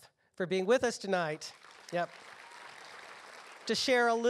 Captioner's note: applause